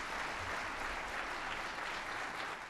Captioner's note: applause